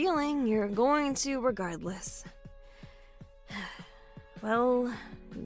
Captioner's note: tired sigh